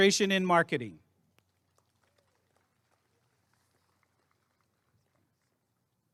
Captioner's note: applause and cheering